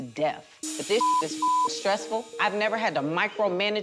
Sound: beep

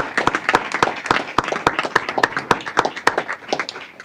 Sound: applause

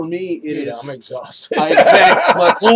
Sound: laughs

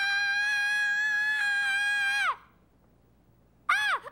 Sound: screaming

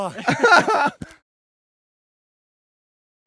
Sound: laughter

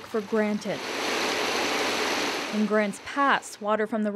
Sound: nats water running

